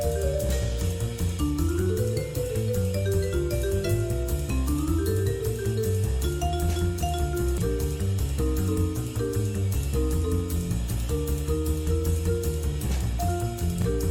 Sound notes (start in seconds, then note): none